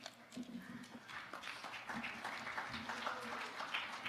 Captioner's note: audience applauding